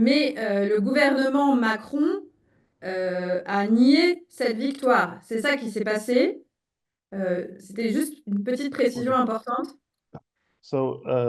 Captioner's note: speaking in French